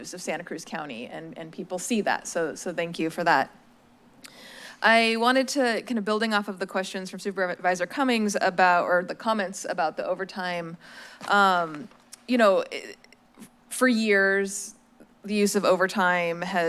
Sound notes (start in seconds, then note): none